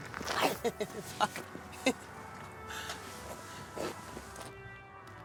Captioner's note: laughs